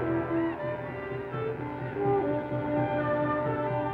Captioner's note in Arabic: صرخة حرب بعيدة